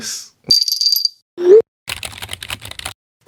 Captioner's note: jingling bells sound; typing sound